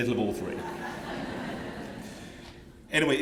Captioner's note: laughter